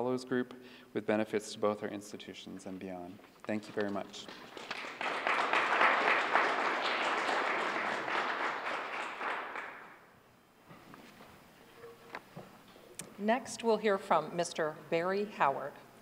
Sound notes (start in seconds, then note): 5.7 applause